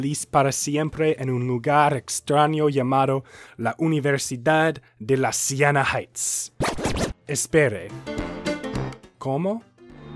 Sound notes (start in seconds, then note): 6.5 record scratch